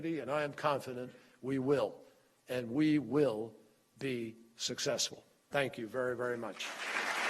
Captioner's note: applause